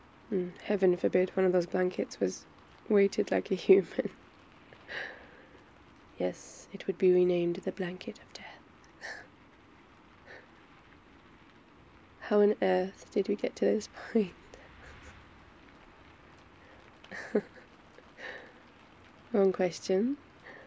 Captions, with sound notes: and heaven forbid one of those blankets was weighted like a human *laughs* yes, it would be renamed... *whispers* the blanket of death... how on Earth did we get to this point *laughs* wrong question